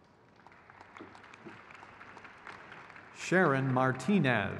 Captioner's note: crowd cheers